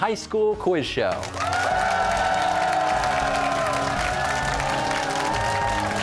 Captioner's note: cheers and applause